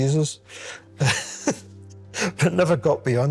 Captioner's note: he chuckles